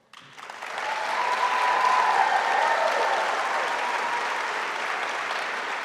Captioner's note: audience applauding; audience cheering